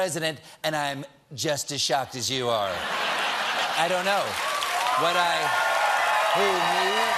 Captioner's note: laughter